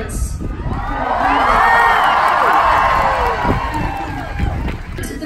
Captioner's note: applause